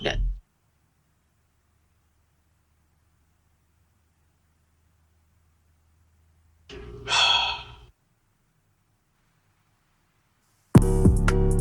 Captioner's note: awkward silence